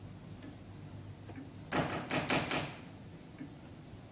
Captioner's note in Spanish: Llaman a la puerta